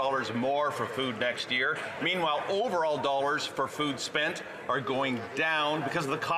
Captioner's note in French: voix de l'interprète